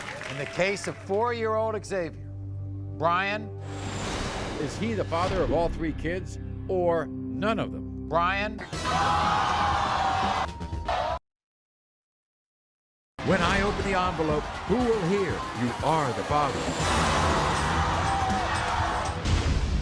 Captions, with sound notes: - In the case of four year old Xavier, Brian. Is he the father of all three kids? Or none of them? Brian. (audience groans) - When I open the envelope, who will hear you are the father? (dramatic music)